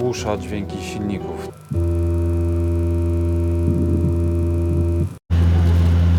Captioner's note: more buzzing sounds